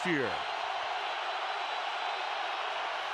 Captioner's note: crowd cheering